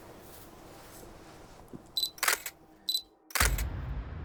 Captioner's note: camera clicking